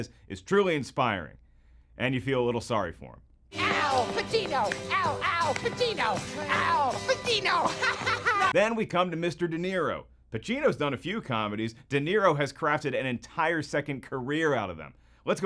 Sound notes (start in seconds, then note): 7.5 giggling